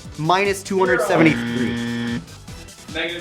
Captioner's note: buzzer